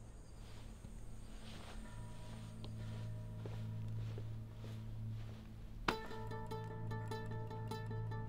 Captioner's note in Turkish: Ayak sesi